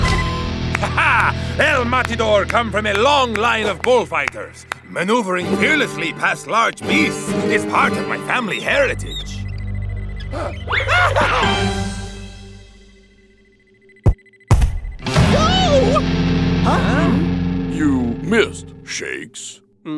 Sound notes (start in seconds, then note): 10.3 gasps